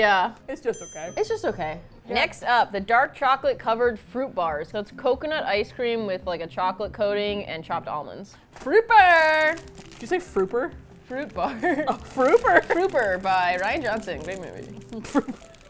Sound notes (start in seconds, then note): 11.4 laughs; 14.3 mumbles; 14.9 laughs